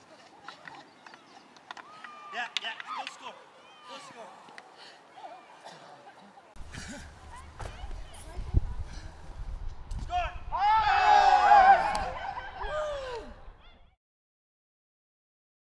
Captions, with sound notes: (Iaughing) No score! No score! Score. (cheering)